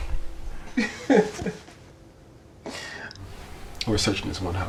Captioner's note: Reed laughing